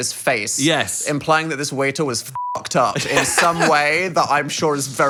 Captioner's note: beep